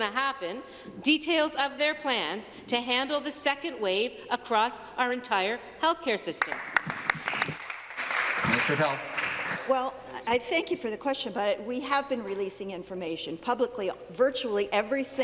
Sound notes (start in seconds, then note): 9.8 applause